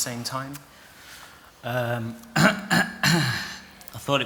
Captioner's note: clears his throat